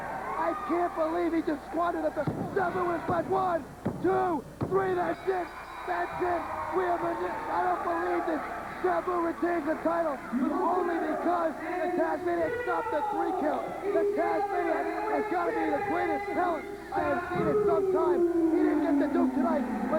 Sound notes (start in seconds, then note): 5.5 bell ringing